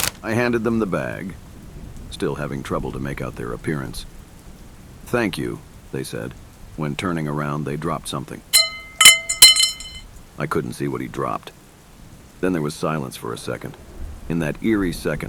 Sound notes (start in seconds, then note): 8.5 metal clank